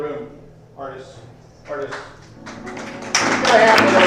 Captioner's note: audience claps